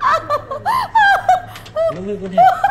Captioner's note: clicking sound